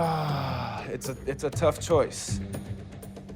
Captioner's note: sighs